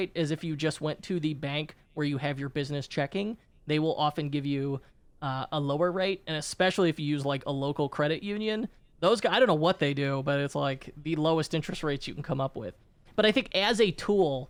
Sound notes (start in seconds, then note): none